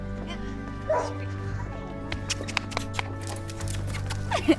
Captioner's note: dog barks